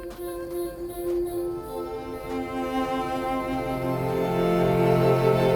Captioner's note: footsteps thudding